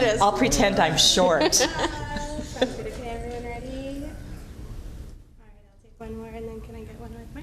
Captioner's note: laughter